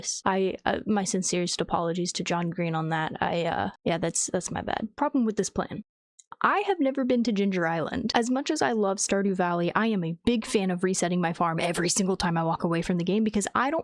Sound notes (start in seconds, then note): none